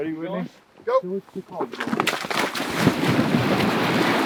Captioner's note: water splashing